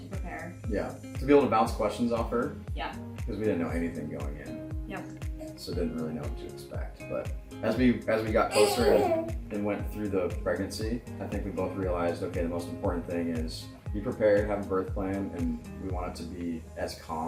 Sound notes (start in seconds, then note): 8.4 grunts